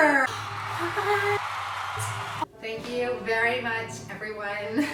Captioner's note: cheering